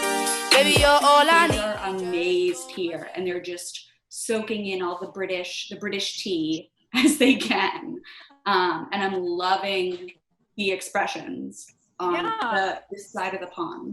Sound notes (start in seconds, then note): 7.0 chuckles